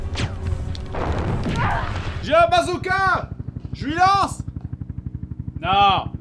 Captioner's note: shots/strokes noises; helicopter sound